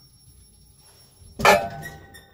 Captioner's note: bang!